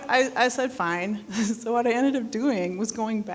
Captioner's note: scoffing